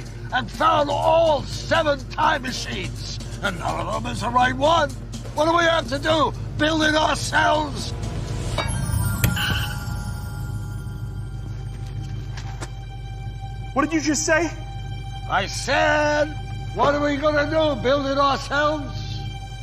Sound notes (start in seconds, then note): 9.4 tire screeches